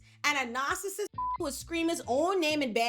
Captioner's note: beep